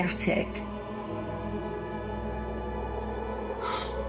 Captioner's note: air raid siren